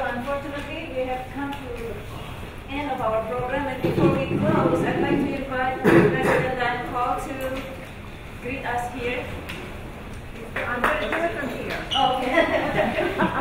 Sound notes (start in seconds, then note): 10.2 audience applauds